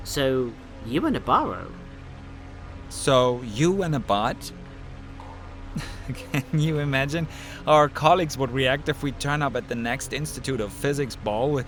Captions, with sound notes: So...you and a bahro. So you and a bot? [Laughing] Can you imagine how our colleagues would react if we turned up at the next Institute of Physics ball